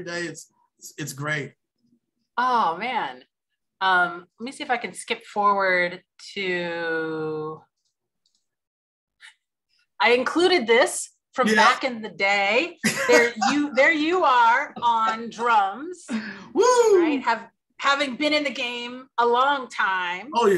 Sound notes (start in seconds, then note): 12.8 laughs